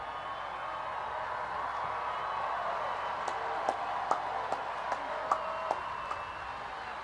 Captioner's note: applause